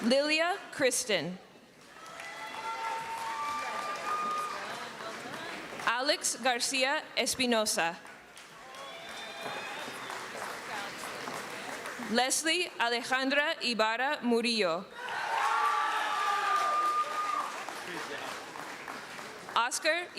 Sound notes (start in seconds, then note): 17.8 screaming